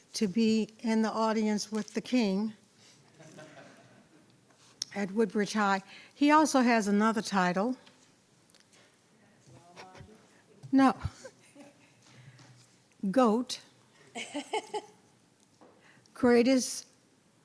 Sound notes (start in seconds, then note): 11.1 laughs